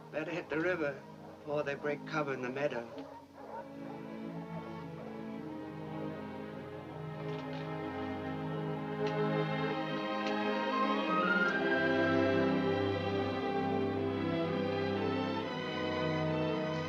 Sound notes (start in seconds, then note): 2.6 dogs barking; 3.4 gentle music; 13.3 gentle music continues